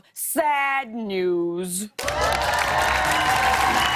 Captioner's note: cheers and applause